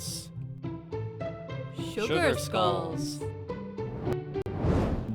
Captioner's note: speaks foreign language